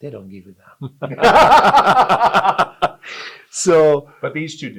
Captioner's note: both laugh